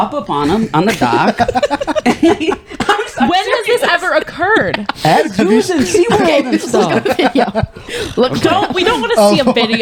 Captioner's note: laughing